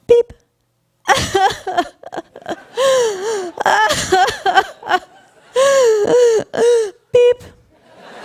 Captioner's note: loud sobbing